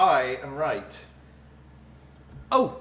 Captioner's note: awkward silence